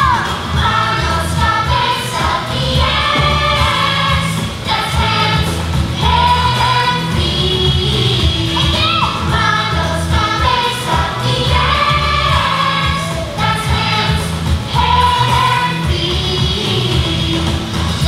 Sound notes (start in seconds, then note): none